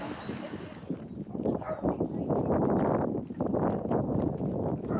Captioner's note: wind noise